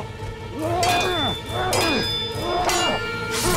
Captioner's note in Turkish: Haykırma sesi; Kılıç sesleri